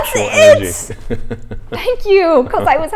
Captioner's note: laughs